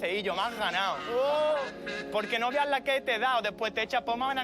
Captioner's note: shouts